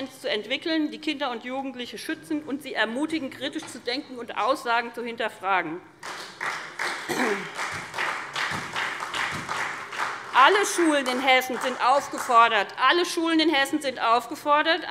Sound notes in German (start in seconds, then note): 6.0 Beifall SPD